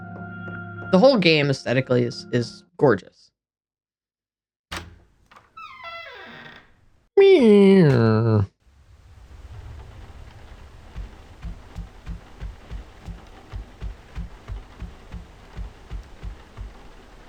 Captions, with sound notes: The whole game, aesthetically, i-is gorgeous. [imitating door creak]